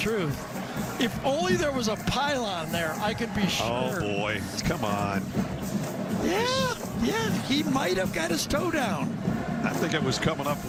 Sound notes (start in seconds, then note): none